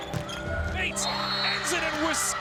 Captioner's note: cheering; whistle blows